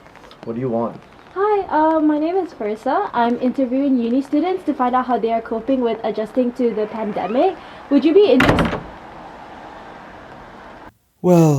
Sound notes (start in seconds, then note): 8.4 door slams